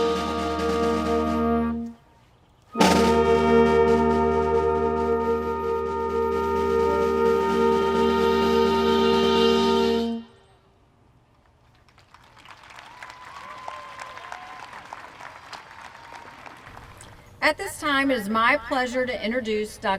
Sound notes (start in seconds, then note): 11.3 applause